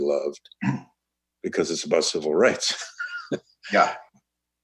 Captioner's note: laughs